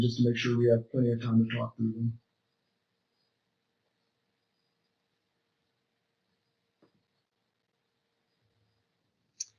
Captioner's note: pause